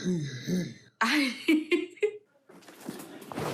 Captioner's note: chuckles